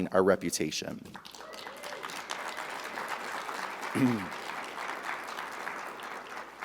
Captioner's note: audience applauding; audience cheering